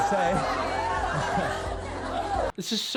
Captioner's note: women laughing